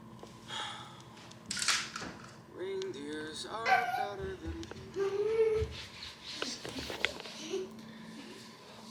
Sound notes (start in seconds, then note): 0.5 sighs; 4.9 chatters